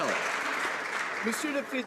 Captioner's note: some Applause